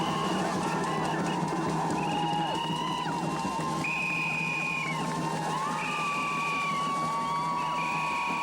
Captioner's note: drums, whistles, crowd roars